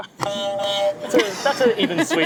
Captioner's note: horn honking; laughing